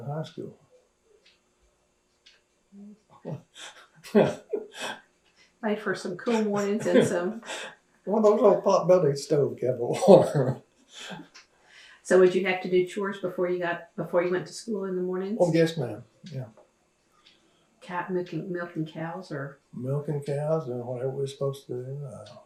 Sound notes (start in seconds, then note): 11.1 laughs